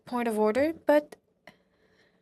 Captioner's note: speaking French